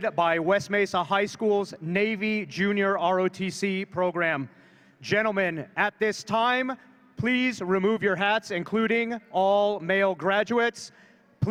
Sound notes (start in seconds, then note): none